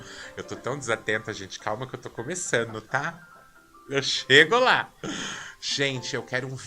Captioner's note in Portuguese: suspirando